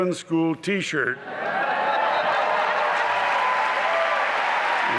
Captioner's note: applause and cheering